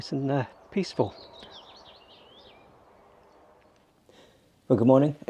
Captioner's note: birds chirping